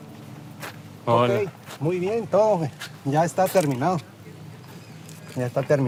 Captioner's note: speaking in Spanish